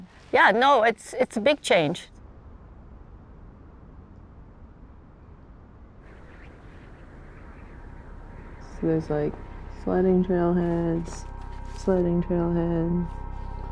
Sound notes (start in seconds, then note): 6.2 wind howling; 8.0 soft music